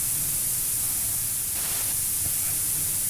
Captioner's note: faint Voice